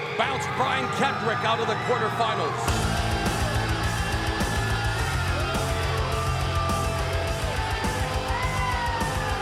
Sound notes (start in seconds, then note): 2.6 rock music; 2.8 crowd cheering